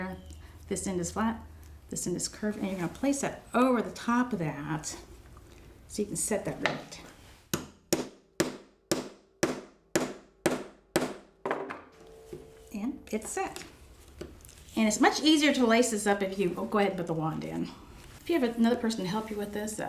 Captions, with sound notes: This end is flat. This end is curved, and you're gonna place it over the top of that so you can set that rivet. (hammer striking) And it's set. And it's much easier to lace this up if you go ahead and put the wand in. If you have another person to help you with this,